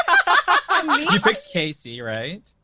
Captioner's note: group laughing